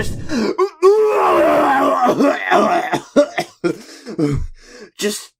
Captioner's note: vomiting noises